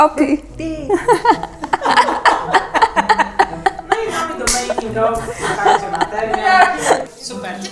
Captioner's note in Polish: śmiech i klaśnięcie